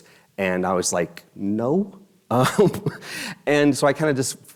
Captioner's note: laughs